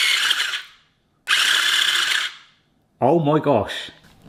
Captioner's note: motor whirs in short burst